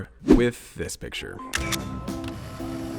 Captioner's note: shutter